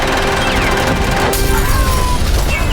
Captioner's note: explosion